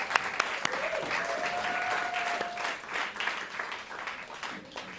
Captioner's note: cheering